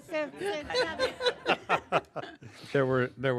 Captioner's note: laughing